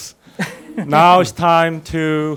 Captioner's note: laughing